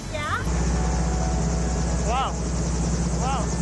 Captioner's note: helicopter whirring